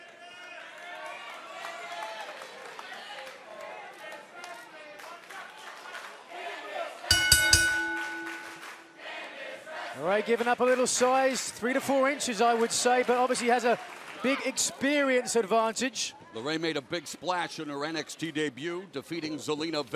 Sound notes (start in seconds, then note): 6.2 fans chanting; 7.1 bell ringing